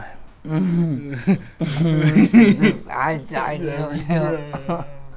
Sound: both laugh

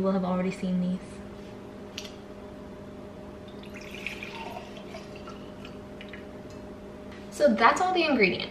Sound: pouring drink

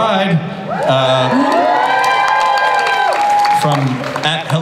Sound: audience applauds and cheers

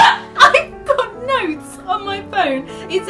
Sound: laughs; laughing

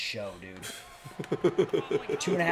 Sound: laugh

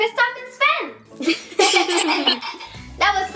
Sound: laughter

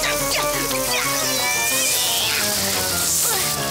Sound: screaming

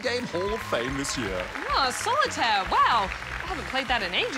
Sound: applause

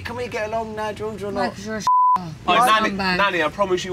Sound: beep

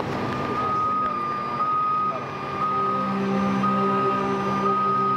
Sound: hazard siren beeping

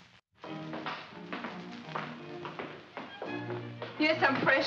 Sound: footsteps; classical music plays

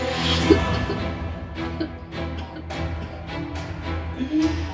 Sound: coughing

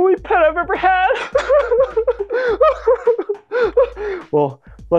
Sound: crying

